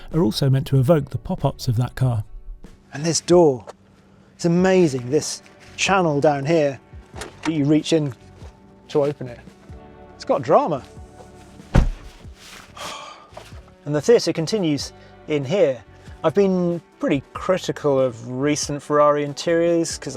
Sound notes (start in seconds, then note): 11.7 door thuds; 12.7 sighs